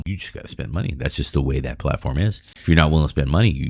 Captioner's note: uh